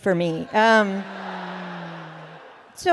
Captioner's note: laughter